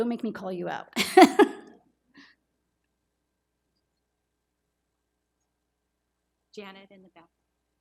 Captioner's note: laughs